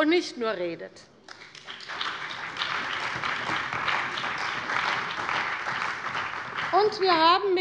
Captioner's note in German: Beifall bei der CDU und dem BÜNDNIS 90/DIE GRÜNEN